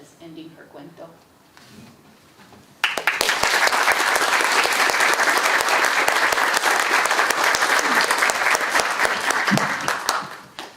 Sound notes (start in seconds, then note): 2.8 audience applauding